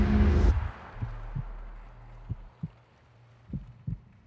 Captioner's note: heartbeat thumping